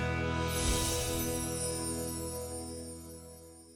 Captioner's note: chimes ring